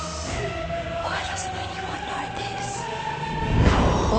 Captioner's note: whispers